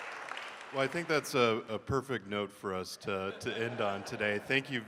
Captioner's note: laughs